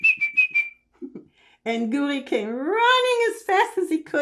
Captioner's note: laughing